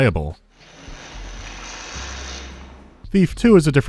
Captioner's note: electric crackling